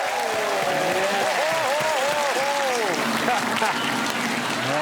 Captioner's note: crowd cheers